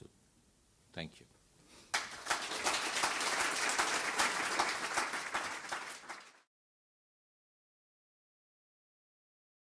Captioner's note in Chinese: 掌聲